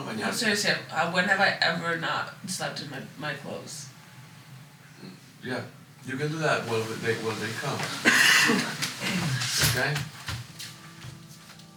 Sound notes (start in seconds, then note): 7.9 coughing